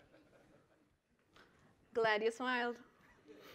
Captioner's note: laughter